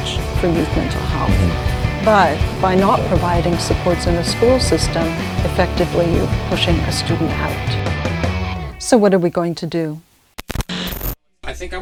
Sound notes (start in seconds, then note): 10.0 static